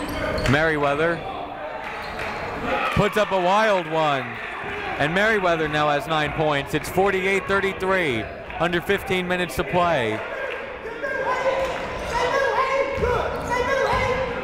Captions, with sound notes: Merriwether. Puts up a wild one! And Merriwether now has nine points. It's 48-33, under 15 minutes to play. (shouting)